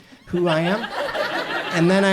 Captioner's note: audience laughs